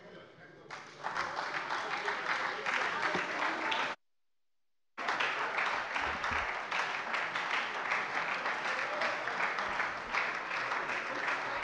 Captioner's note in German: Anhaltender lebhafter Beifall bei der SPD